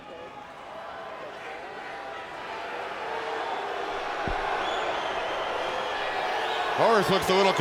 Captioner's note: crowd cheering